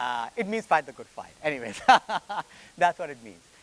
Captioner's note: laughs